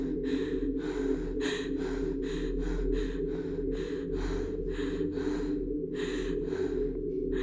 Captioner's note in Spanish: respiración forzada